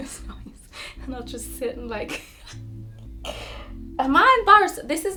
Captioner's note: laughs